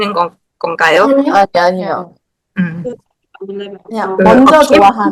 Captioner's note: haha